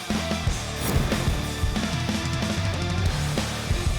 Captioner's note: whooshing